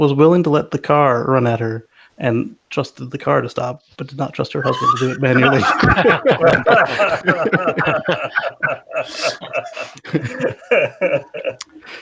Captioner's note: all laugh